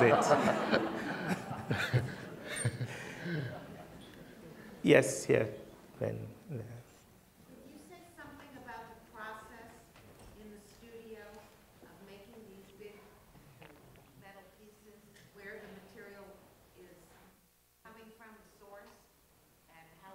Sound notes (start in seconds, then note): 7.8 voiceover